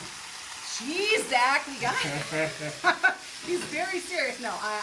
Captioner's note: laughs